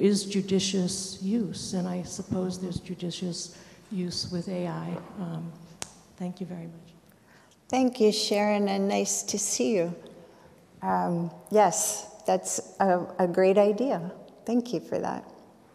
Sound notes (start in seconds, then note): none